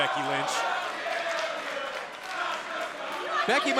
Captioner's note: crowd cheering